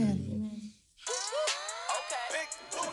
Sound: ringtone

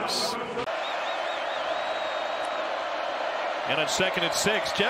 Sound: crowd

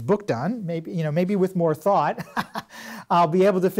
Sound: laughs

